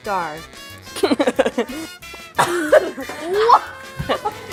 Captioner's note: laughs